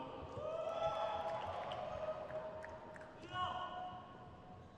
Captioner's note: crowd cheers